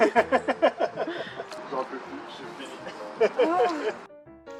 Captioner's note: laughs; laughs